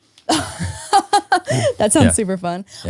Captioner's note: laughing